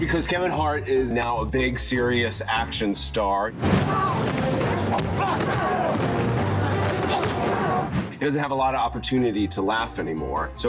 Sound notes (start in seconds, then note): 3.8 hands thudding